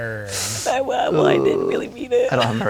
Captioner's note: sniffs